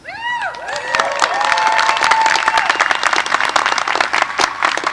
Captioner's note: applause